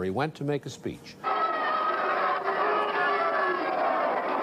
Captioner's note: crowd booing